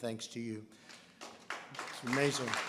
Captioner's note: applause